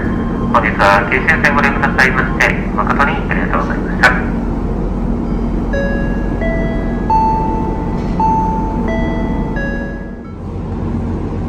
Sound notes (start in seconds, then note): 5.2 sound of chime after announcement